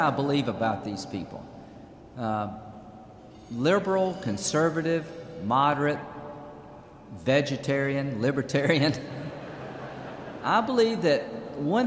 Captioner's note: laughter